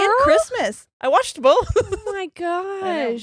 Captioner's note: giggles